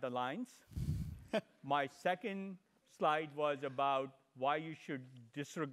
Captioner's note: laugh